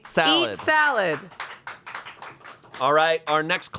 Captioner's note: crew applauds